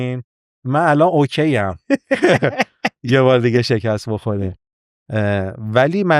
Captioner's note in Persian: خنده